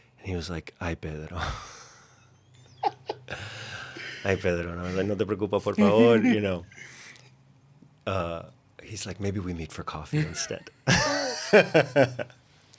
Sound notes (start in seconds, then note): 5.0 speaking Spanish; 10.9 laughs